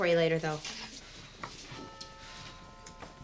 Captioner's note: doorbell rings